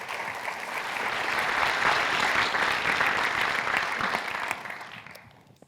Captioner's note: applause